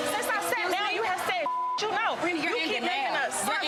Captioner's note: beep